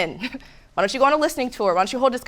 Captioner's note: giggles